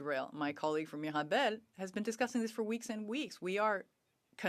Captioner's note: speaking French